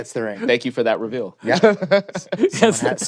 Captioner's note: laughter